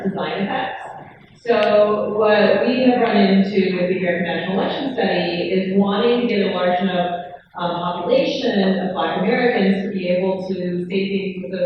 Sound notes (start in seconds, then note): none